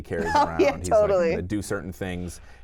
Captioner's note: laughs